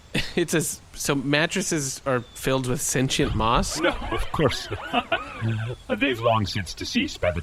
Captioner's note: laughs